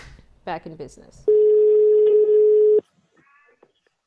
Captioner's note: low beep